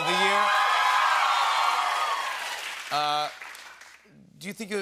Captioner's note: cheers and applause